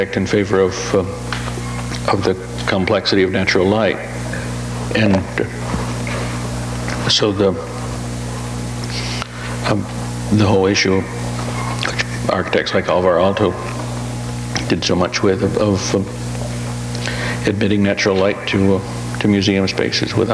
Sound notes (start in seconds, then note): none